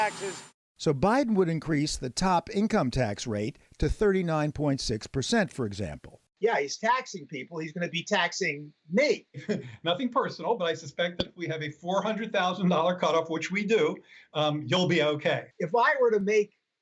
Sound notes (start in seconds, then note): 9.3 laughter